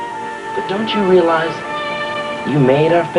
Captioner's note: none